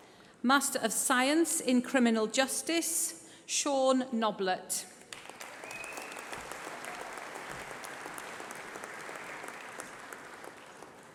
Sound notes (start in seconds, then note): 5.0 applause